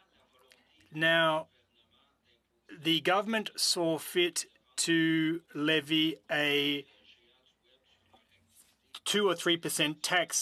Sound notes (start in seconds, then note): 5.7 speaking French